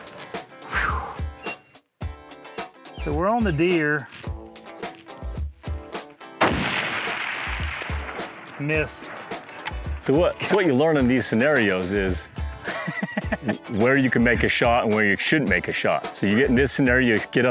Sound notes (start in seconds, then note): 6.4 rifle firing